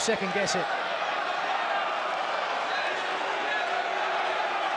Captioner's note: crowd roars